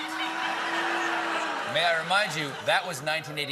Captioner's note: booing